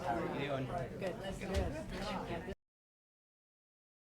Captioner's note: people chattering